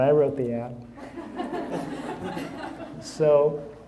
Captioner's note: audience laughing